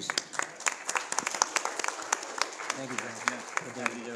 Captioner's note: audience applauding